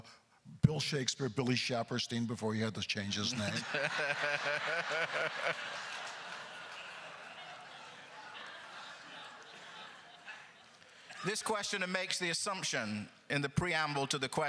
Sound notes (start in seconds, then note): 3.3 laughing; 3.3 crowd laughter